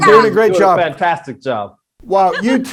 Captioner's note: female guest giggles